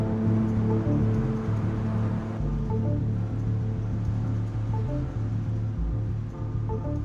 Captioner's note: dramatic music; devices beeping